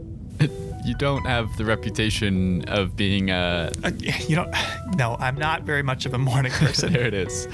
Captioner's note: stammering